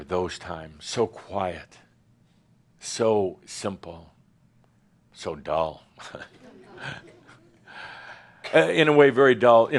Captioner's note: chuckles